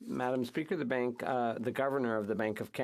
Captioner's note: speaking French